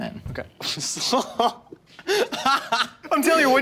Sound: laughs

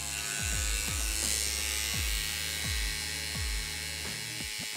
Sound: machine whirring

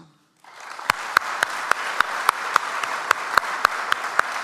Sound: audience applauds

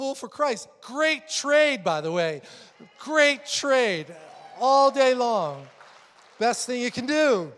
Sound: congreation cheering

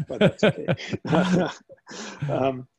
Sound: laughter

